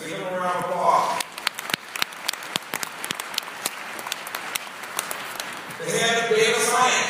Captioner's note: applause